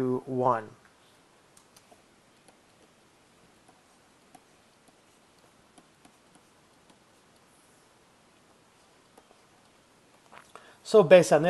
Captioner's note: writing on blackboard